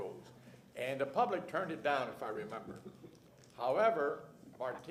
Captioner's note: laughter